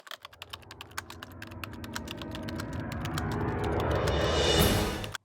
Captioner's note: typewriter sounds